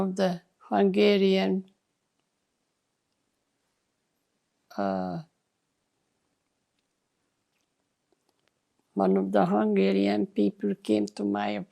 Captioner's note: pauses 8 seconds